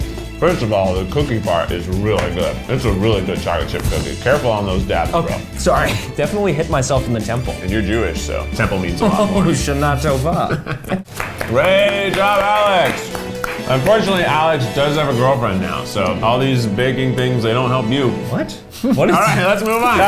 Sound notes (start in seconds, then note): 10.0 laughing; 11.0 clapping